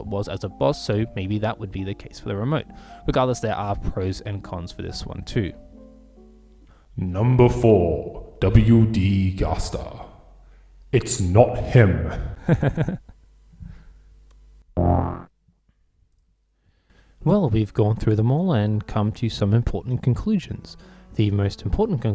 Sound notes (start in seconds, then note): 12.2 laughter